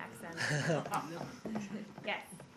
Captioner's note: laughter